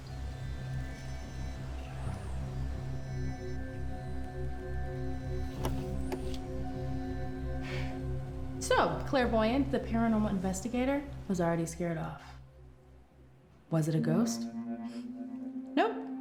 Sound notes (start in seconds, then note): 0.2 pensive music; 7.8 Claire sighs